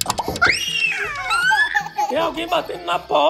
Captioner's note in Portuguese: Gritos